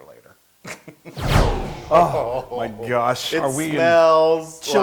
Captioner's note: laugh